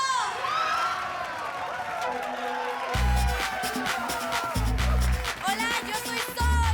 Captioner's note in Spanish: Gritos y exclamaciones